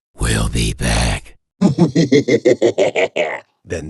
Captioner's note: gangs laughing out loud